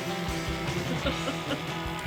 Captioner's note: laughs